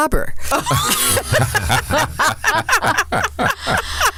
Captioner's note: everyone laughs